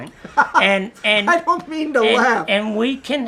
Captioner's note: laughs loudly